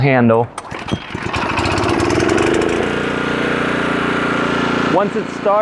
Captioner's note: engine starts and runs